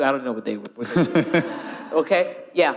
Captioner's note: audience laughing